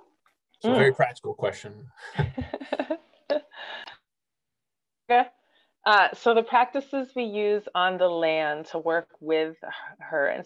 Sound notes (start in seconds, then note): 2.0 laughs